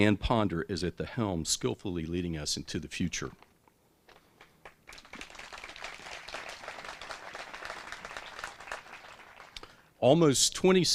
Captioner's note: applause